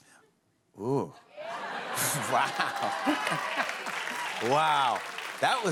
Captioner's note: applause